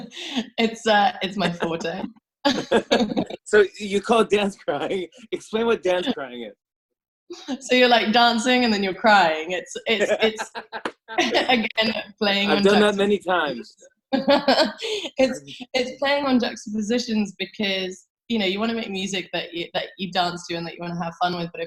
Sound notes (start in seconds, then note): 2.5 both laugh; 9.8 laughs; 14.2 laughs